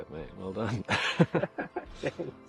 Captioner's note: laughter